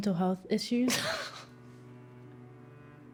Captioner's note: Claire scoffs; somber music